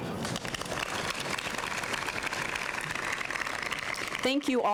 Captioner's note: applause